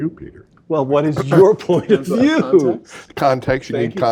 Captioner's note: laugh